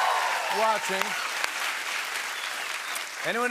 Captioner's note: cheering and applause